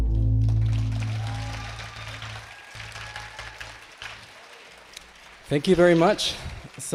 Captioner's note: attendees clapping and cheering